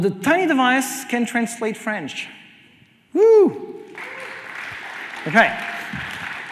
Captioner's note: cheers and applause